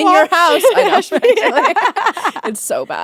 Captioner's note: both laughing